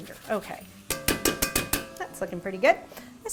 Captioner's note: hitting pot